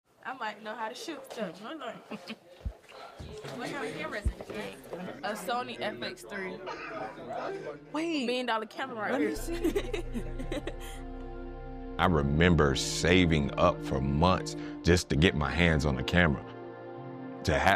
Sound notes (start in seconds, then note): 6.8 students murmuring; 9.1 laughs